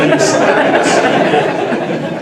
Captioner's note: laughter